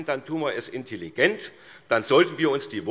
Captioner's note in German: none